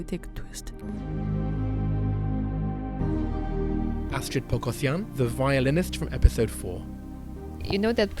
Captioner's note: voiceover